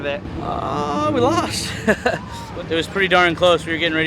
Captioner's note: chuckles